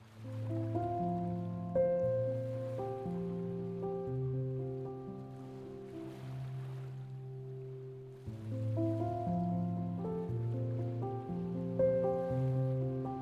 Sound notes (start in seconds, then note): 0.2 gentle piano music; 2.6 water lapping